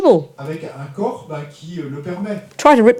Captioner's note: audience member speaks in French